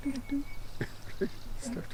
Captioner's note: laughs